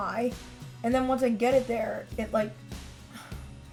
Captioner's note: sighs